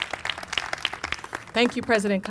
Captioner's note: applause